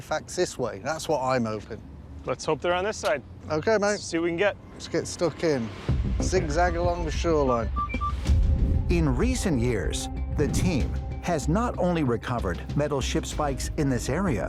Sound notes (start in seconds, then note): 7.5 detector beeping